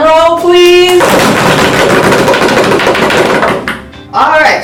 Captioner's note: hands beating quickly